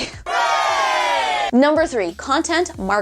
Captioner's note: cheering